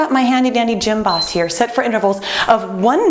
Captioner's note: beeping